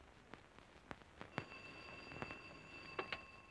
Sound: phone ringing

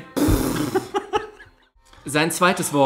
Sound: snorts; laughs

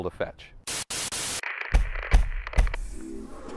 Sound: static

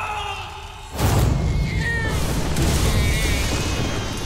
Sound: crying

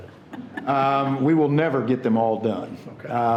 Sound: people chuckling

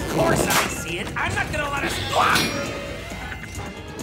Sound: screams

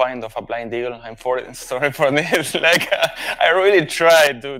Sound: chuckles

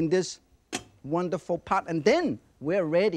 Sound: lid clinks

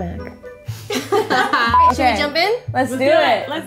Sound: laughter

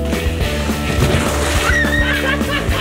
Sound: splashes; screams

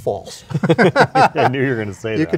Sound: laugh

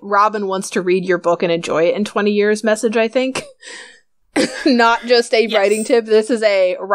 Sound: laughs

